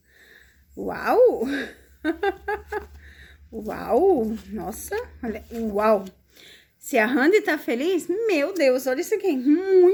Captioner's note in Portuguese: risadas